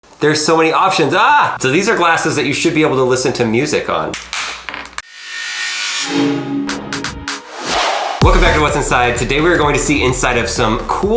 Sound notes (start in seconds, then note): 4.2 plastic cracking; 5.8 upbeat music